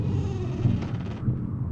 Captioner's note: creaking